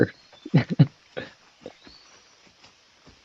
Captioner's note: laughs